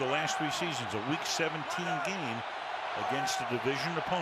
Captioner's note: cheering